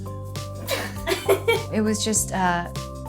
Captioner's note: laugh